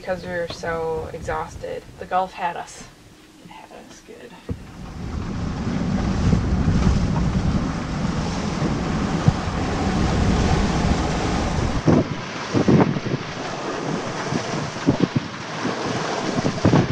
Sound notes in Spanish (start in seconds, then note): 5.6 fuertes olas del mar; 12.0 viento fuerte